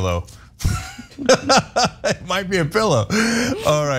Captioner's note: laugh